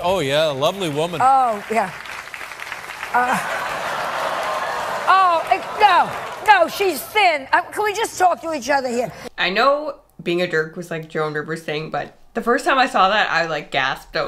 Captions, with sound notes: - Oh yeah, a lovely woman. (audience clapping) - Oh yeah. (audience laughing) No, no, she's thin. Can we just talk to each other here? - I know being a jerk was like Joan Rivers' thing, but the first time I saw that, I like gasped.